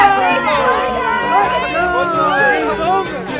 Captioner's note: cheering